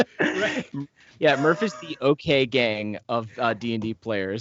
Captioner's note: laughs